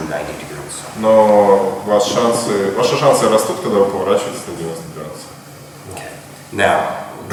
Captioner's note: speaking in a foreign language